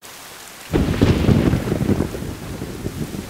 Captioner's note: Clouds thundering